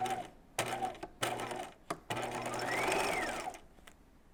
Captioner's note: sewing machine whirring